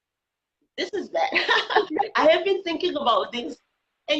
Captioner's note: laughing